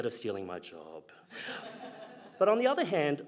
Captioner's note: audience laughing